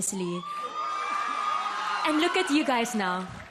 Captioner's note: audience cheering